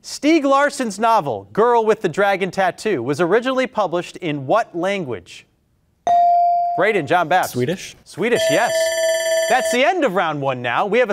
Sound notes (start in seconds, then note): 6.0 beep; 8.3 alarm ringing